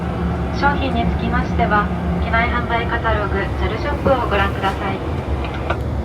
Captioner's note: announcer speaking in a foreign language